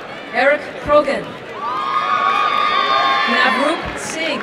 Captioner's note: applause and cheering